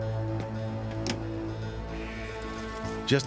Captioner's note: click